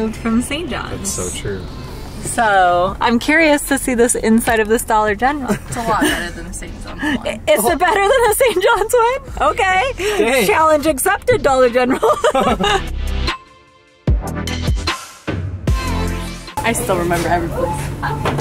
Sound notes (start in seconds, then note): 11.8 laughs; 14.7 upbeat music